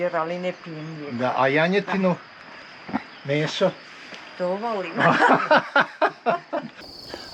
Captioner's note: laughs